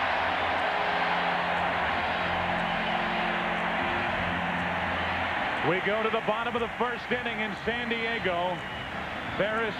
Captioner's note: cheering